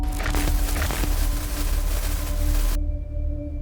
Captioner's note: static sound